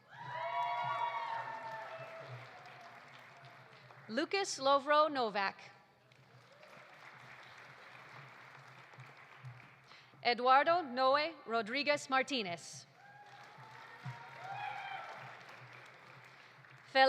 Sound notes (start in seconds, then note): 0.0 audience cheering; 0.0 audience applauding; 6.0 audience applauding; 12.9 audience applauding; 13.0 audience cheering